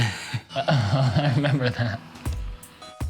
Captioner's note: chuckling